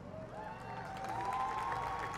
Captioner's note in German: Applaus